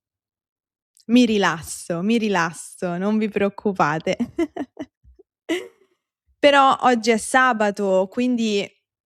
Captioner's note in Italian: risate